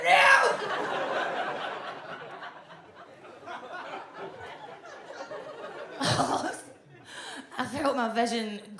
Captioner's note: audience laughs